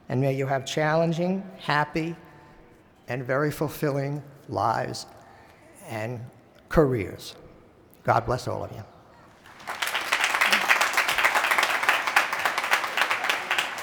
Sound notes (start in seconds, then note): 9.3 applause